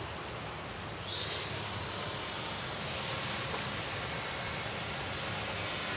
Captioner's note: power tools whirring